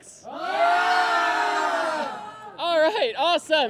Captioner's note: cheers and applause